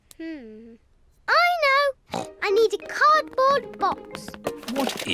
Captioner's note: snorts